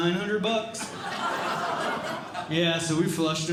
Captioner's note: audience Laughing